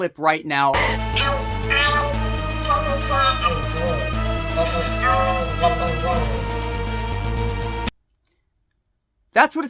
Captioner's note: video game character speaking with high pitched robotic voice